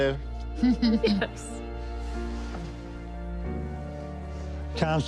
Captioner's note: laughs